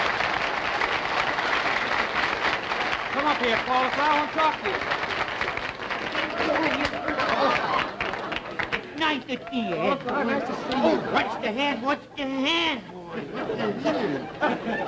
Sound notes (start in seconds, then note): 0.0 applause; 2.7 applause; 4.3 audience gasping